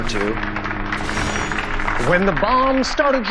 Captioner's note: audience applauding